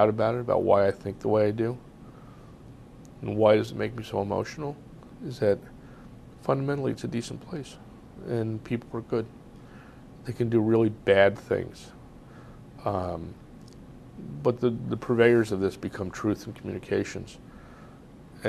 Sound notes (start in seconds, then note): 12.4 pauses for 3 seconds